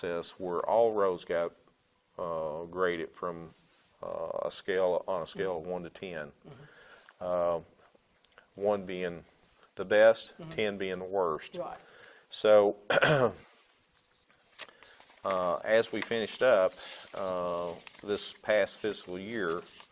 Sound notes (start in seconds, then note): 12.9 clearing throat; 19.7 papers rustling